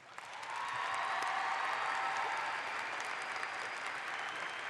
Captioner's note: audience applauds